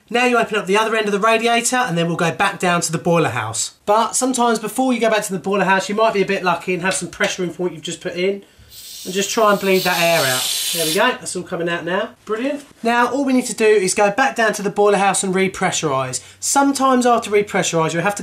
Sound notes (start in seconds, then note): 8.7 air moving